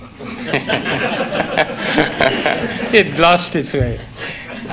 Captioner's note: audience laugh